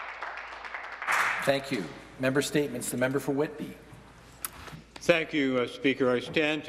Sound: some Applause

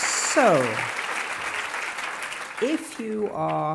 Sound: cheers and applause

